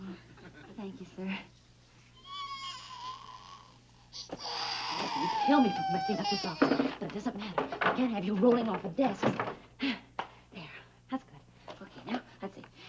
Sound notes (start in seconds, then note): 1.9 cries